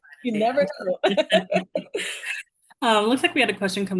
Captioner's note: laugh